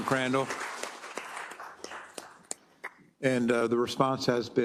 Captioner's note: applause